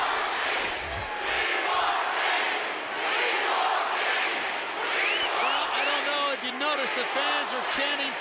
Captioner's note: crowd cheering